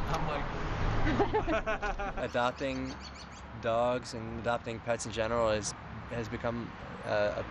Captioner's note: laughter